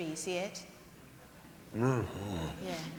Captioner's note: grunts